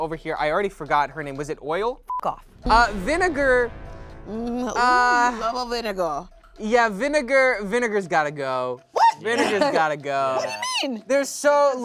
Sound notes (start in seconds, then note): 2.0 beep